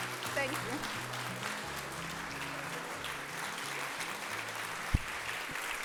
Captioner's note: audience applauding